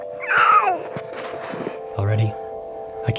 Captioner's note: baby coos